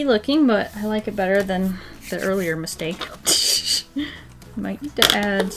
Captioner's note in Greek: Γέλια